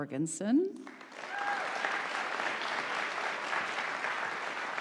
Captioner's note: audience applauding